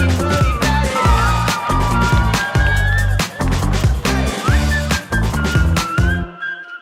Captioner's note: bright upbeat music; artist whistling